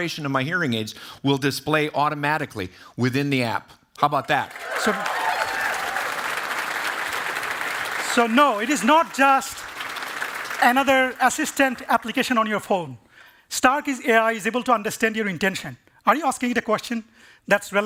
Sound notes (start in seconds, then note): 4.5 cheering and applause